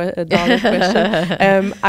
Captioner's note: laughter